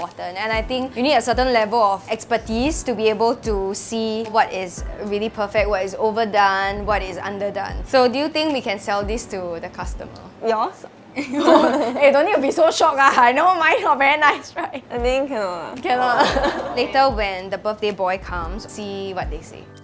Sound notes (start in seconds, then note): 11.2 laughs